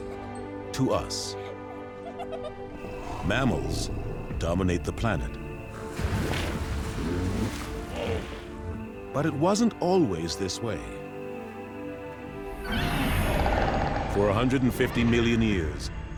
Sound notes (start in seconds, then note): 4.9 grunting; 12.6 dinosaur screeches